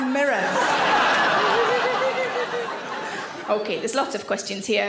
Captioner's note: audience laughs